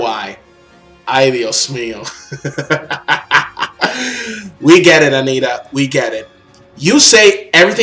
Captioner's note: laughs